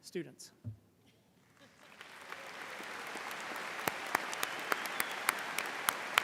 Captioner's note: audience applauding and cheering